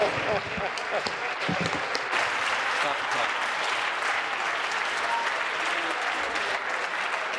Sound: laughter; applause

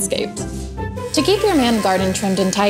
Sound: trimmer buzzing

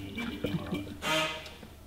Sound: grinding noise

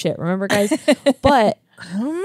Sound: laughs

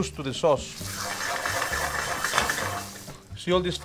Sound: spoon scraping the saucepan

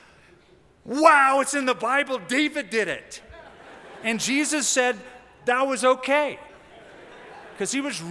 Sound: laughter

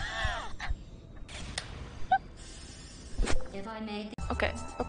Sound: dies laughing

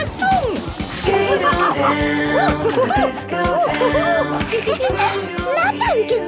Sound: laughing and exclaiming

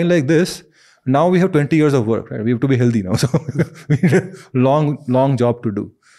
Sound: chuckles

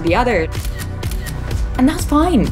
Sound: camera clicks

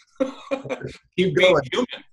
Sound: laughs

